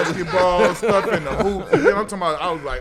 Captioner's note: laughing